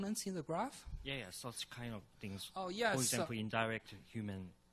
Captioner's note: voiceover